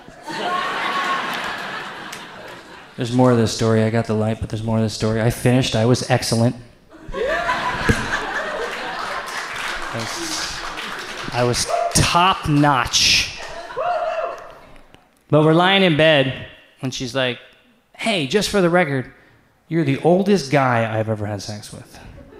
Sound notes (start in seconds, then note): 0.0 audience laughs; 7.1 audience cheers; 10.1 audience applauds; 22.2 audience laughs